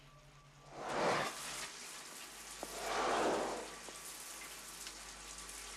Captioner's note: Работает душ